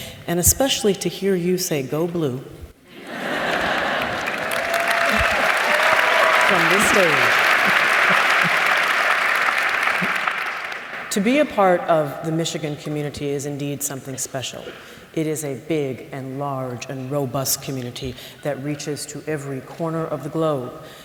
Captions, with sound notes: And especially to hear you say, go blue [laugther]. [ Applause ] To be a part of the Michigan Community is indeed something special. It is a big and large and robust community that reaches to every corner of the globe.